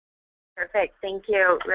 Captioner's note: voiceover